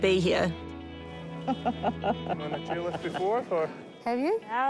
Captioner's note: chuckles